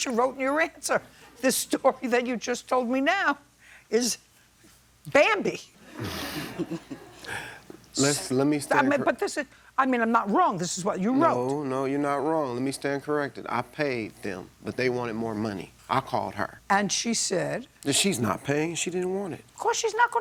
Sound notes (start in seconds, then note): 5.9 laughter